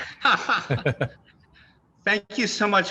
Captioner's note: both laughing